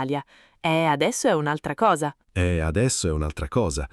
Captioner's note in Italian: Haha